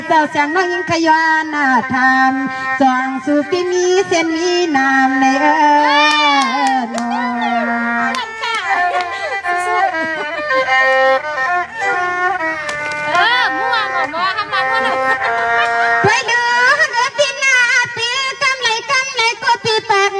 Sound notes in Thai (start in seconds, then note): 12.6 ปรบมือ